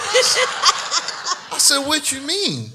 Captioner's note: audience laughs